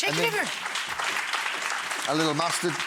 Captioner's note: audience applauding